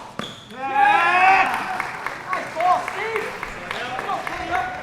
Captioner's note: players cheering